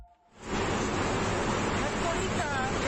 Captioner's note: wind whirring; woman speaking foreign language